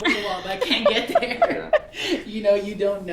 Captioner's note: laughing